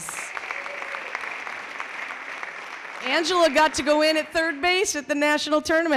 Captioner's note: clapping